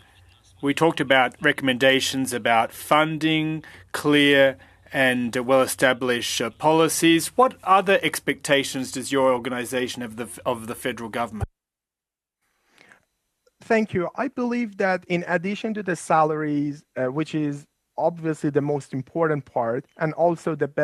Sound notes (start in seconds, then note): 3.6 speaking French